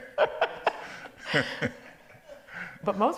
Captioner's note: laughs